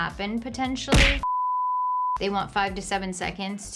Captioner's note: beeper beeping